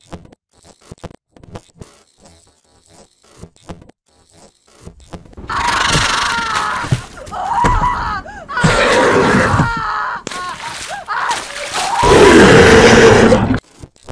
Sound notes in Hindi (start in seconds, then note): 6.2 स्नेहा की चीख ने की आवाज